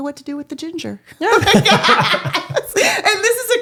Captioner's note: both laughing